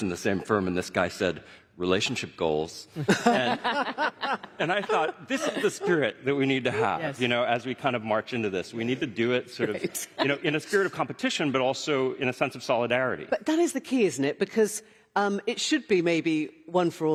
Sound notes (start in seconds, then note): 7.9 laughter; 9.6 laughter